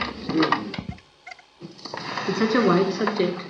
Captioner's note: tape interruption